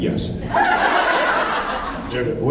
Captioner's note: laughs